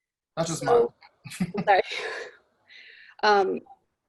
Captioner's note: laughing